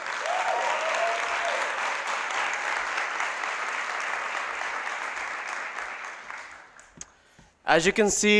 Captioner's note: applause